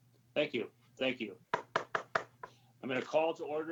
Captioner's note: gavel bangs